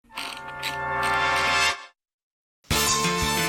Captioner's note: wheel clicks